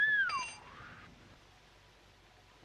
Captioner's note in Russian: Свист